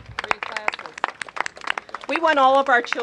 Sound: applause

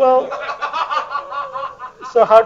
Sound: laughter

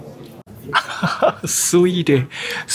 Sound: chuckles

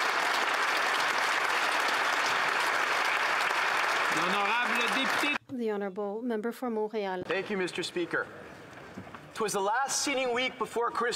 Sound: applause

